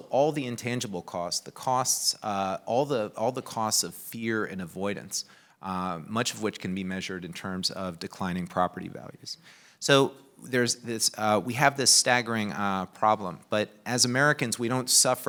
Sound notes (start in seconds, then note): none